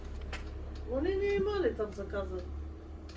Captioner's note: speaking in the Ukrainian language